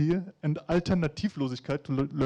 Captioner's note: speaking in foreign language